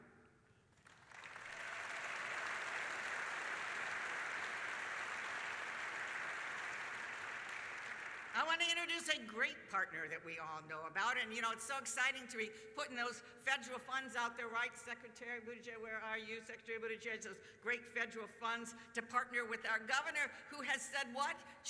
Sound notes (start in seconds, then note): 8.7 applause